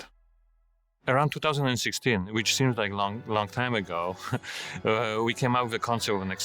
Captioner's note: laughs